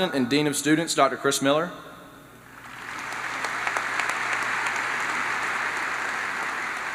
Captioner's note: applause